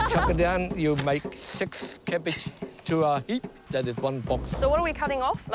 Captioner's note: laughs; laughs